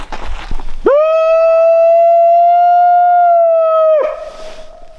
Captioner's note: howling